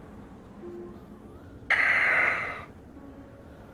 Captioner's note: deep sigh